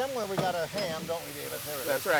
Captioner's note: pan thumping